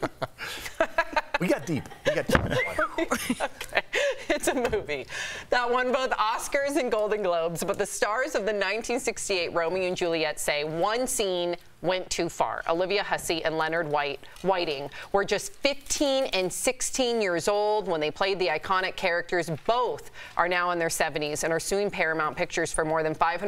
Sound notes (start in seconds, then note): 4.6 laughter